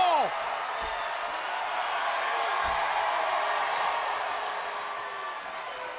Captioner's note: applause